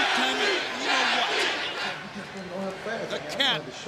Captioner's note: crowd cheering